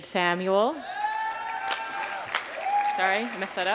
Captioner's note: applause